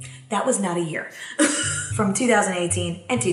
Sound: laughs

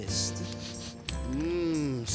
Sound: sniffing

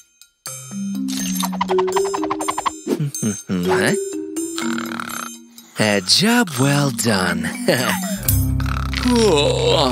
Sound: snoring

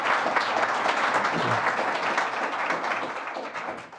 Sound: applause

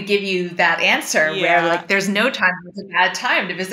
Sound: voice fades

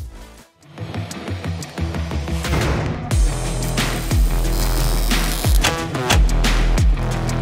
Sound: sizzling; upbeat music

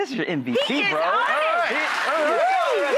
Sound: audience clapping

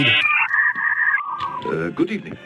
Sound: signal screeches

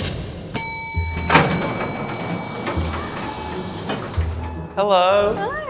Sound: lift dinging

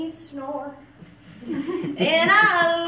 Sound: crowd giggles

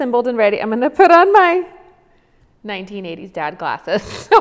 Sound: giggles

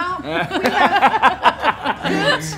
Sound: all laugh

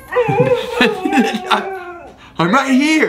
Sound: dog howling

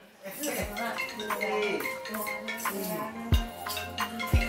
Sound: phone ringing

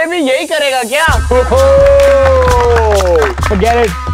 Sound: laughing

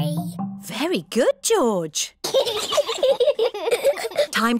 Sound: both giggle

